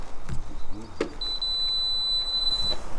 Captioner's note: beep